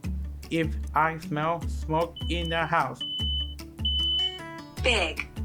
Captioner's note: smoke alarm beeping